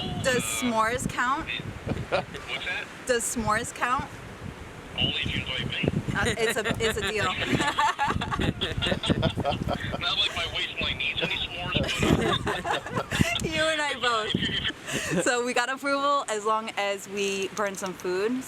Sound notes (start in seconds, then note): 7.8 laughter; 11.1 laughter